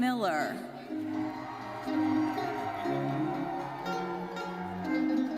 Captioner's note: audience cheering; lively uplifting music continues